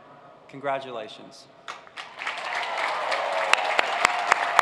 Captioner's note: cheers and applause